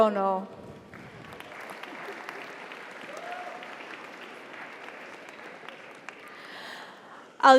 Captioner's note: audience applauds; audience cheers